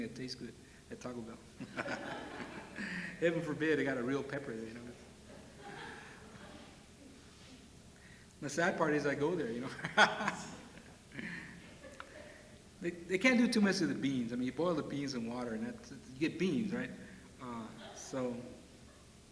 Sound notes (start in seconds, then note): 1.6 laughter; 5.2 laughter; 9.6 laughs